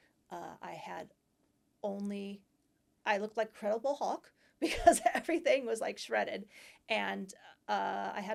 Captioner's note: laughter